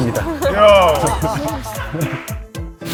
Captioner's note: hahahat